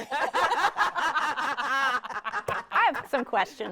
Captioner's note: everyone continues laughing